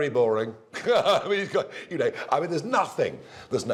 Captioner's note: laughter